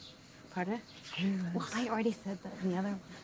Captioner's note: speaker whispering